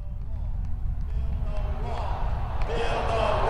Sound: crowd

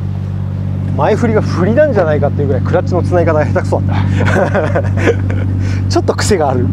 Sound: laughs

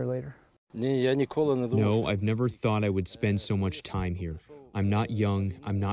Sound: through translator

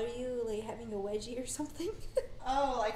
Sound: laughs

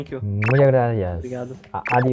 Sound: Spanish

